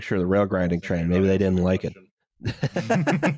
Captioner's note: quietly; laughter